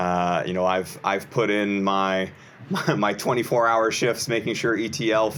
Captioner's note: chuckles